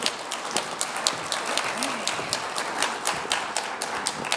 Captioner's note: applause